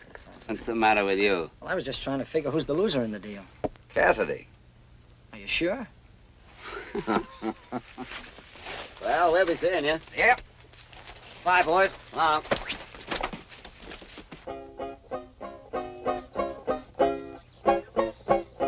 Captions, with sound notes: What's the matter with you? I was just trying to figure who's the loser in the deal? Cassidy. Are you sure? [ LAUGHS ] - Well, I'll be seeing you. - Yep. - Bye, boys. - So long. [ PLAYING PERKY MUSIC ]